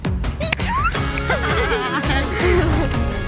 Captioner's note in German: Quietschen, Lachen; Gelöste Musik